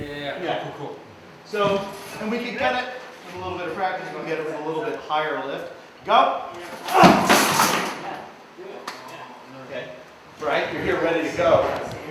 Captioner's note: grunt